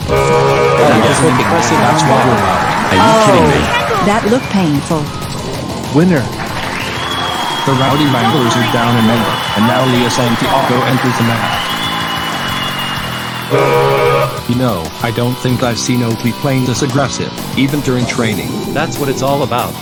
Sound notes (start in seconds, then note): 0.1 horn sound; 6.6 audience cheering; 13.7 horn sound